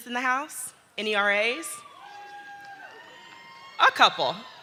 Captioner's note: audience cheering